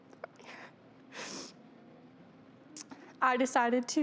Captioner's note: sniffles